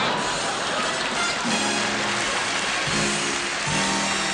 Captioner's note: applause